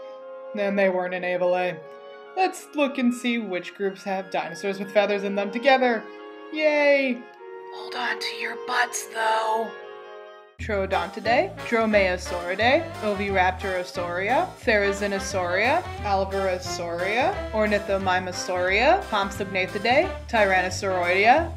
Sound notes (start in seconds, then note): 6.3 smol science whisper